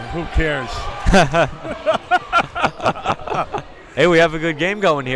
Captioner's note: both laughing